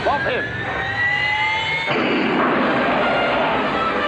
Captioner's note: launching sounds